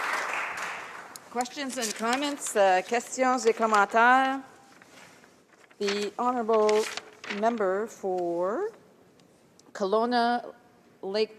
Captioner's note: speaking french